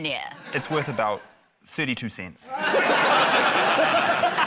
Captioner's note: laughter